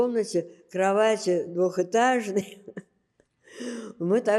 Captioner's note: laughing